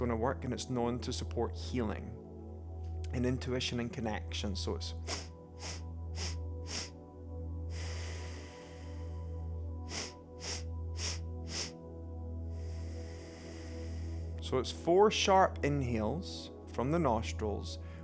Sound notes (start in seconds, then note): 4.1 inhales four sharp breaths through the nose; 7.7 exhales deeply through the nose; 10.9 inhales four sharp breaths through the nose; 12.3 exhales deeply through the nose